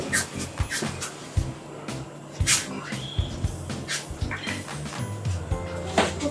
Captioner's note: laughs